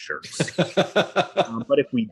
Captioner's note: laughs